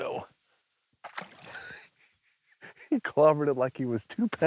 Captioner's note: laughing